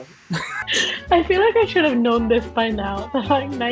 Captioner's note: laughs